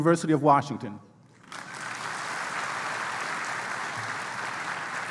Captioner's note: applause